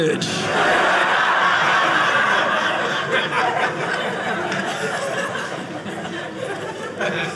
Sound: audience laughing

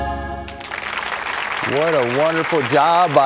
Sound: applause

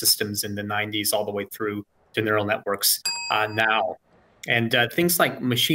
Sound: bell dings

